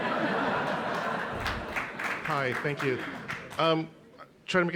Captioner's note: laughter